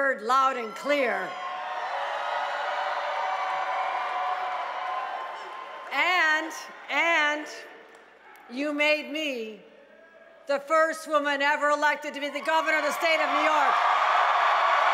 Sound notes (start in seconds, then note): 8.8 cheering